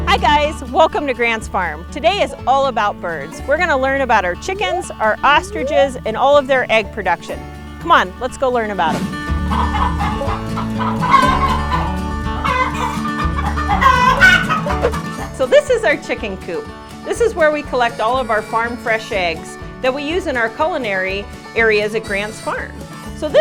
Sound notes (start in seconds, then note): 9.2 upbeat country music; 10.9 chickens clucking